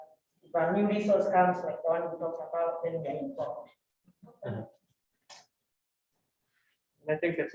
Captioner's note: speaks faintly